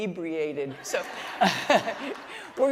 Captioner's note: laughter